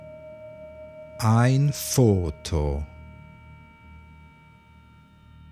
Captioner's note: german